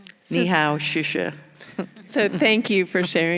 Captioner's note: speaking in foreign language